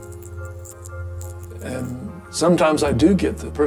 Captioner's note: beads clicking